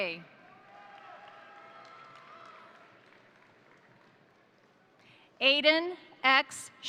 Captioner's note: crowd cheering; crowd applauding